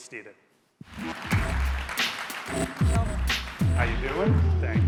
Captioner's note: audience applauding